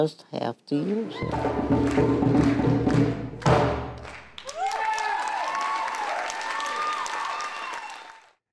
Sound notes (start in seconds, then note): 1.1 drum music stops; 4.0 cheers and applause